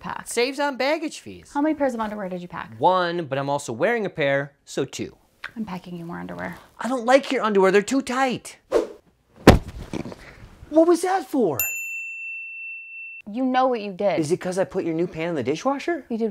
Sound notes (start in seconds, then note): 9.4 pillow thuds; 11.6 bell dings